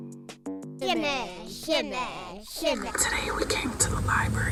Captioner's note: children mumbling